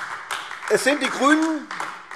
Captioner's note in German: Beifall AfD